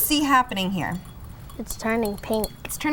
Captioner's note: glass clanging